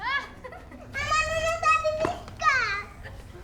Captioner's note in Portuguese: risos; chorando